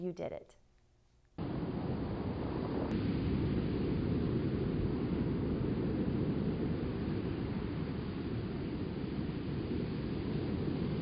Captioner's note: white noise